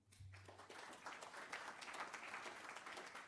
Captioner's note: applause